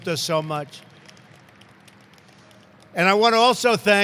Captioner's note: applause